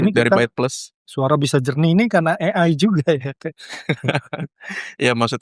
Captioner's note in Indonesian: tertawa